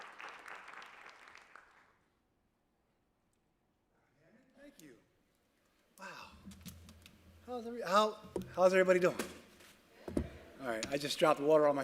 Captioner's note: applause